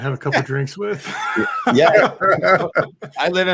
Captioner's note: laughing